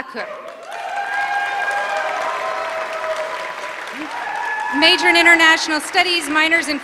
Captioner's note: applause